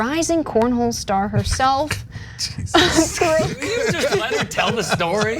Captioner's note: laugh